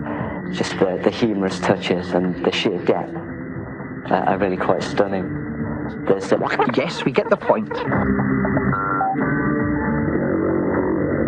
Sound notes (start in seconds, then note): 6.0 fast forward sound